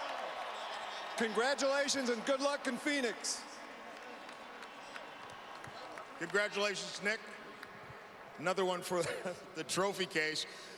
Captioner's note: cheers and applause